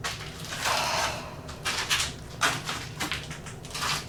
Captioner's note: Tina sighs